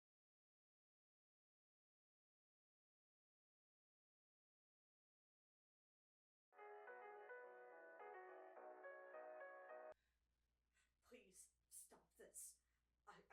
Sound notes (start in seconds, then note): 6.6 ringtone plays; 11.1 Hana speaking quietly